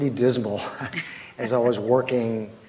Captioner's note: laughs